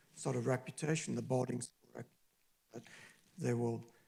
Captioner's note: distorted audio